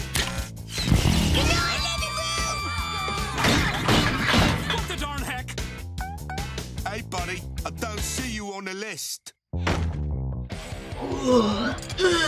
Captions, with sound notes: Good night, living room! [smashing] What the darn heck? Hey, buddy, I don't see you on the list! [groaning]